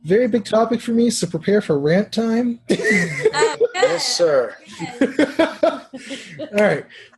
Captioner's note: laugh